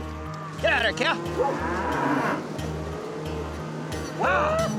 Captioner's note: mooing